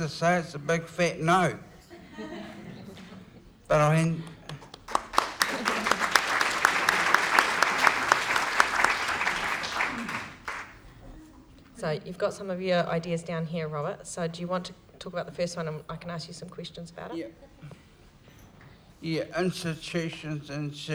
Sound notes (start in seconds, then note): 4.2 applause